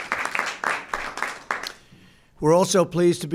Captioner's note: applause